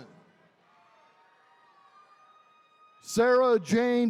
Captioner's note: attendees cheering